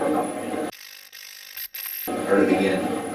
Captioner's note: static fizzing